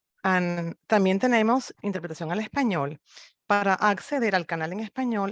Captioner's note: speaks in foreign language